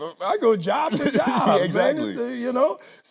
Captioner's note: laughing